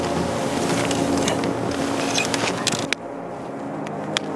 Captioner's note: rocket clacks